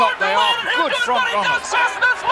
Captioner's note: mumbling